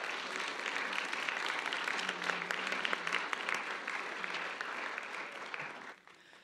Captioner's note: applause